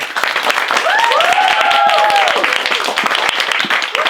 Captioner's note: applause and cheers